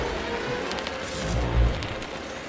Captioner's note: fire crackling